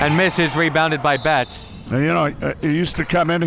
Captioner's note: whistle blowing